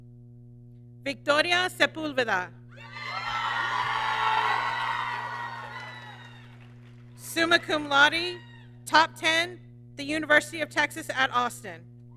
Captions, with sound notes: Victoria Sepulveda, (applause) Summa Cum Laude, top 10, the University of Texas at Austin.